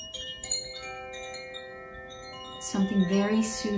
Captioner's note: bells ring